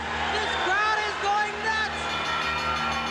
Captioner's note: bell ringing